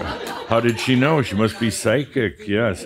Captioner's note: some chuckles